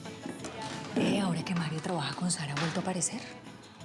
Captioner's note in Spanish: en voz baja